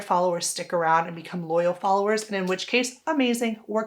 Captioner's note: hands clapping